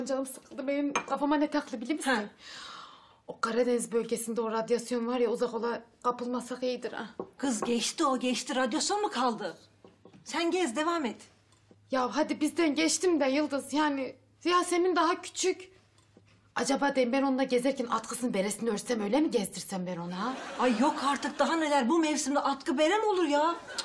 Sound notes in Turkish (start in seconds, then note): 6.6 Tahtaya vurma sesi